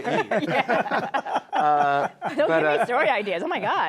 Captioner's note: laughter